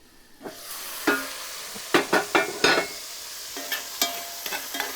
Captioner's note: sausage and ham sizzling